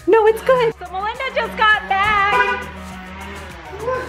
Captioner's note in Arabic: تزمير السيارة